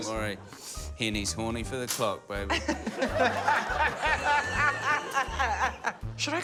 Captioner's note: laughter